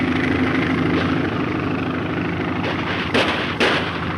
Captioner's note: guns firing